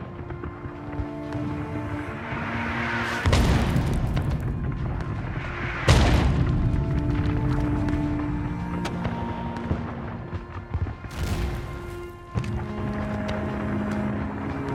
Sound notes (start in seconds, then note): 3.2 loud explosion; 7.5 tense music